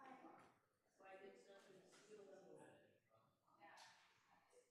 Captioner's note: group chattering